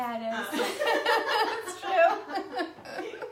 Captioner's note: laughing